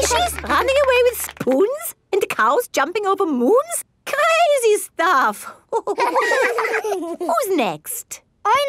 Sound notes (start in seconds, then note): 5.7 all laughing